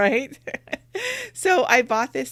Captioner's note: laughs